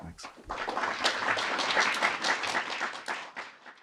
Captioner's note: audience clapping